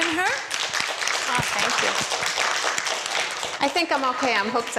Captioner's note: audience applauds